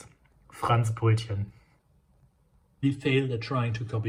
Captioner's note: speaks in foreign language